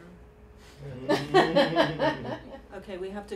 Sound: laughter

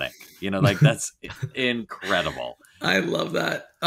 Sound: all laughing

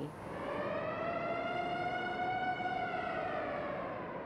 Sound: siren blares

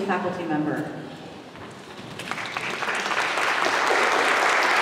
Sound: applause

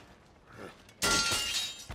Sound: grunts

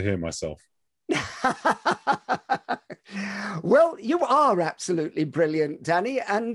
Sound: laughs

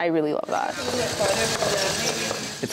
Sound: robot whirring

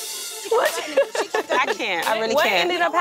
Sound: laughing

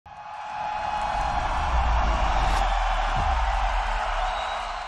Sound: applause

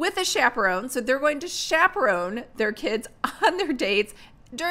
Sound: laughs

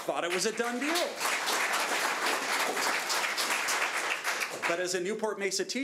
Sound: audience applauding

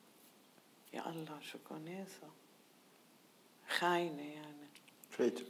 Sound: speaking in foreign language

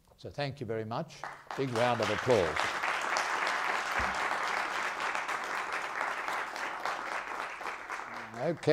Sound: applause

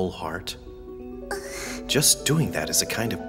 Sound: gasping

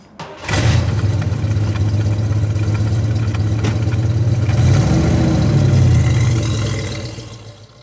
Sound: engine rumbling

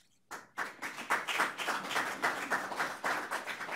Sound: audience applauds

